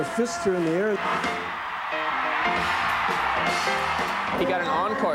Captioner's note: crowd cheering